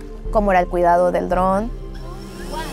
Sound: whirring

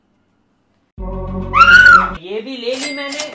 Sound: scream 2

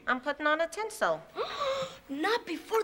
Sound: gasps

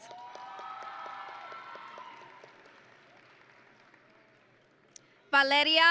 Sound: audience and graduates cheering

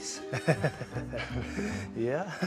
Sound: laughter

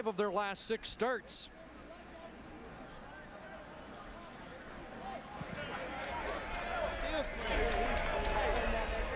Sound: cheering

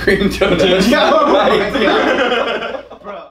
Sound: laughter

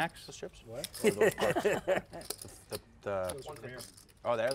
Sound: laugh

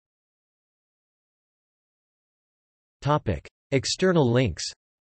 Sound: in German

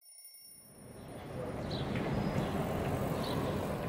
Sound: city and traffic sounds

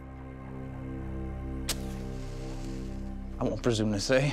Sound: strikes match

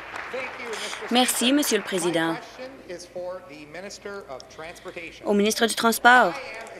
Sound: applause

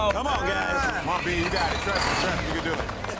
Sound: claps

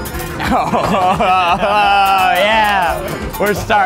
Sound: laughs

